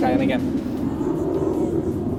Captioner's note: jet rumbles